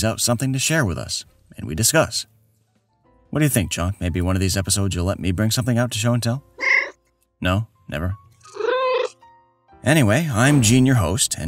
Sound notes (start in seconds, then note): 8.4 meow